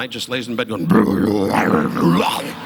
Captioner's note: gargles